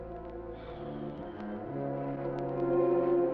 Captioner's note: sighs